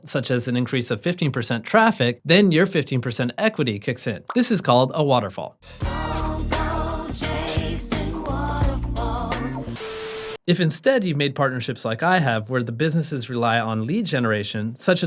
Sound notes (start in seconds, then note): 4.3 bubble popping; 9.8 static crackling